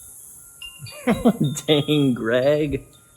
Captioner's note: wind chimes blowing in breeze